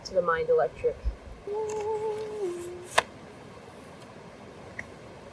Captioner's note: starts humming again